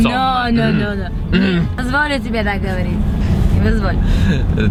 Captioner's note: speaking in Russian